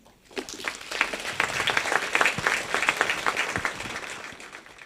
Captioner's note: audience applauds